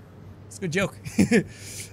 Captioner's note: chuckles